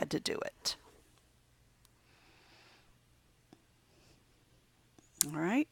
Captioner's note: silent